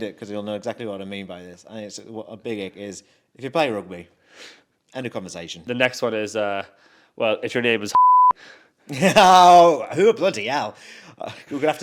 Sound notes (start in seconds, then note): 7.9 beep; 8.9 laughs